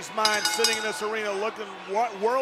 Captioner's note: bell rings